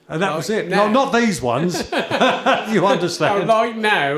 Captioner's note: chuckle